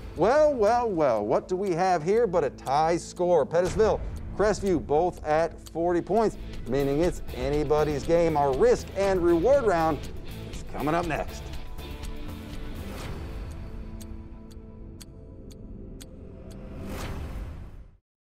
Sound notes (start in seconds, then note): 13.7 clock ticking